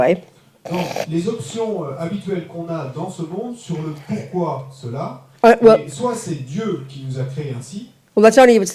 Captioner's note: French